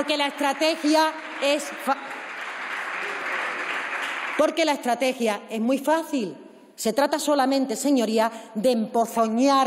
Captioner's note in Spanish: Aplausos